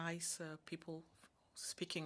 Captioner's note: speaking French